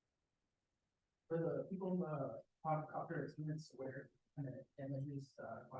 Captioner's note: speaker audio muffled